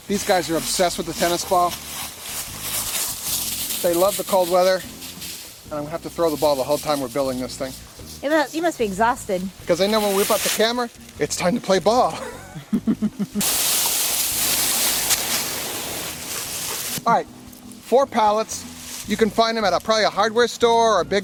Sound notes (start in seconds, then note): 12.1 laughing; 13.0 leaves rustling